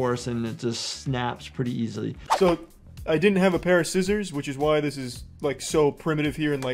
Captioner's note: none